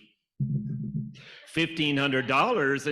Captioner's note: fingers tapping